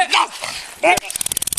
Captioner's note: growl